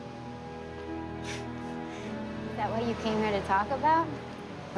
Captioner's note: laughs